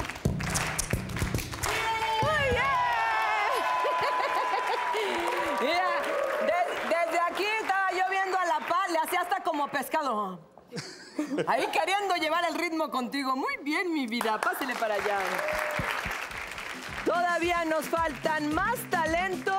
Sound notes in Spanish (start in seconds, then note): 7.5 Risas; 17.4 Aplausos